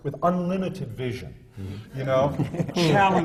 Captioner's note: laughter from the panel